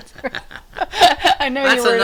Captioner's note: both laughing